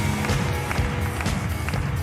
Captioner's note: audience applauding